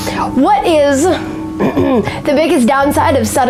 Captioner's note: clears throat